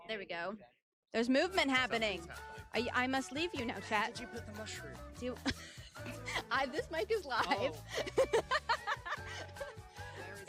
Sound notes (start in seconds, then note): 5.9 laughs; 7.3 giggles